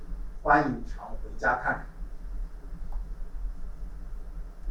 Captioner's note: speaking Chinese